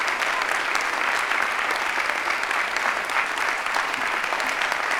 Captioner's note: audience applauding